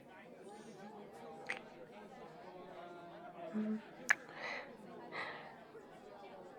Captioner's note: kiss